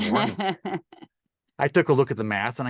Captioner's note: laughs